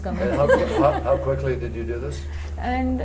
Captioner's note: laughter